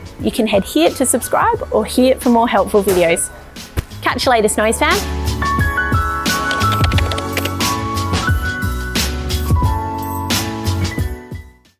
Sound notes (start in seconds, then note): 6.4 upbeat music; 6.4 keyboard clatter